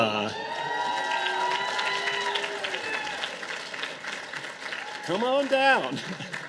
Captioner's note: audience applause; audience laughter